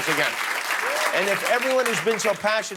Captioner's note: applause